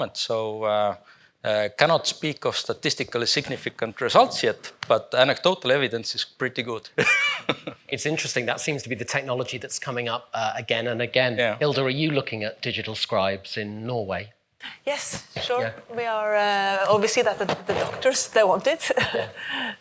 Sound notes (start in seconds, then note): 7.0 chuckles